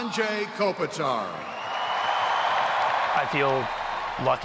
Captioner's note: fans cheering